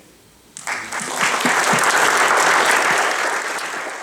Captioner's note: audience applauding